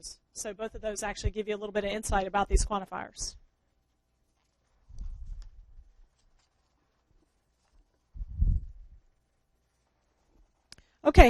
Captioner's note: pause